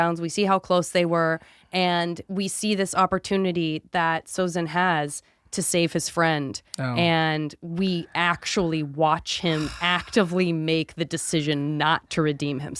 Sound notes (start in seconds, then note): 9.5 scoffs